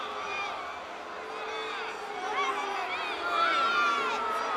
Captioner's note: crowd booing